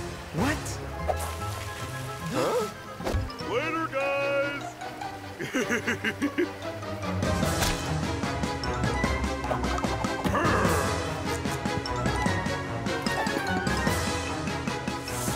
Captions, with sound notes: - What? - Huh? - Later, guys! (laughing) (upbeat music) - Ugh!